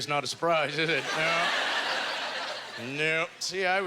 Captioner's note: audience laughter